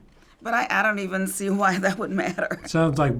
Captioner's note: chuckles